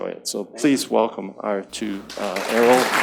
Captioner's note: audience claps